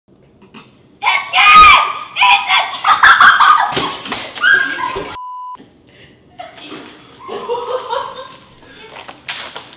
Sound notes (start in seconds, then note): 2.1 girl screaming and giggling; 5.2 beep